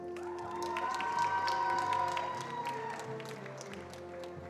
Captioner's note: attendees applauding